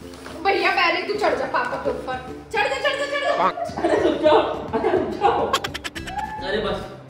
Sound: laughter

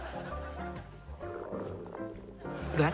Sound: gurgling

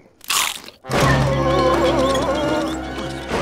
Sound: groaning

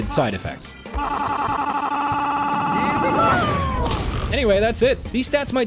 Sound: very Fast Spy Noises

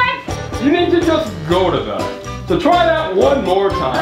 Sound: voiceover

